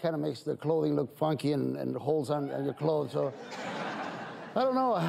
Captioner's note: audience laughs